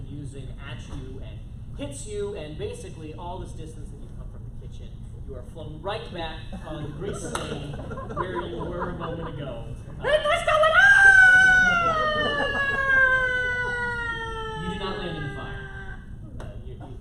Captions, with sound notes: been using at you and hits you and basically all this distance that you've come from the kitchen you are flown right back on grease stain where you were a moment ago What's going on [screams] You do not land in the fire